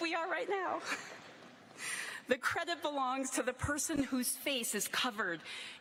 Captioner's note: laughter